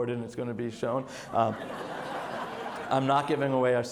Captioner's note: audience laughs